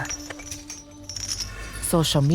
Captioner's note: chains rattling